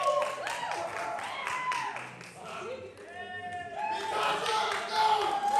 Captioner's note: applause; applause